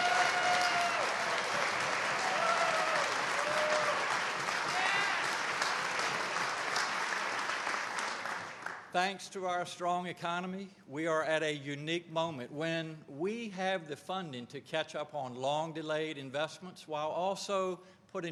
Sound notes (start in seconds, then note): 0.0 cheers and applause; 0.0 applause